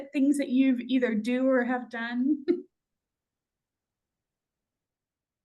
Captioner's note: chuckles